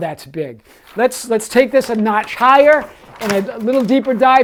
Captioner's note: paper rustling